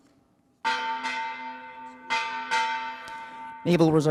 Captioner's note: bell ringing